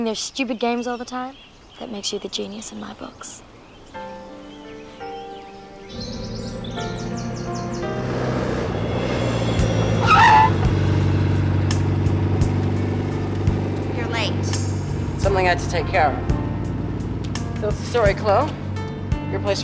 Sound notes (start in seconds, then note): 4.8 soft music; 10.3 tires screeching